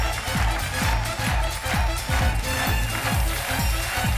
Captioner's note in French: applaudissements